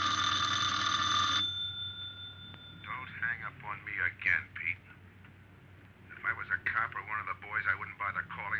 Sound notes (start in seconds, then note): 3.0 on phone